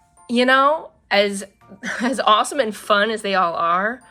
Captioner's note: none